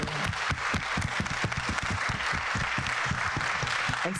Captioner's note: people clapping